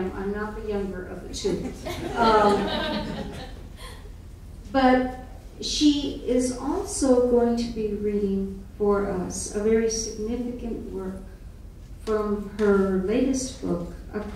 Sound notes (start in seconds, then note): 1.6 audience laughing